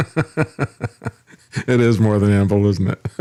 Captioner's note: laughing